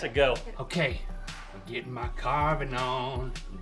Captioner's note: sing-song